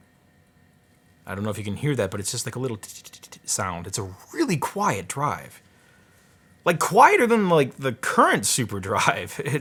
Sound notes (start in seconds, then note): 2.6 chattering